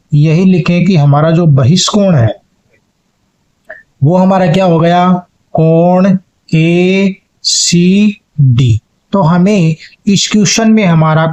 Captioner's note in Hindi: गला साफ़ करने की आवाज़